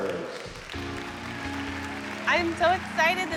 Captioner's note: crowd cheering